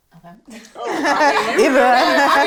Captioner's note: laughing